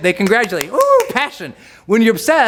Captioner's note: clapping